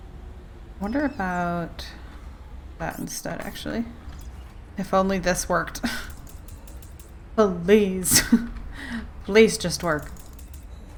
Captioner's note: laughs